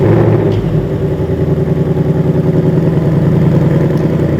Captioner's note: car engine starting; engine revving